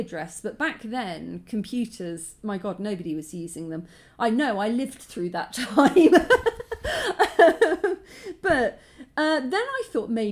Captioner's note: laughing